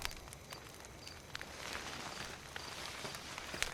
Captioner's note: fire crackling